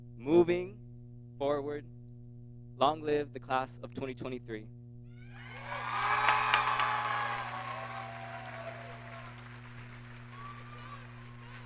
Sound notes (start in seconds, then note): 5.4 audience cheers and applauds